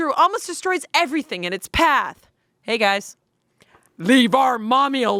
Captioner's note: none